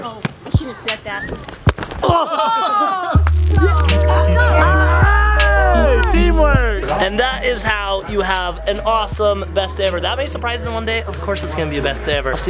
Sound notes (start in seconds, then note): 3.5 cheering